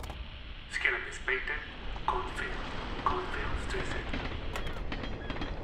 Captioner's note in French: annonce du conducteur du train à l'interphone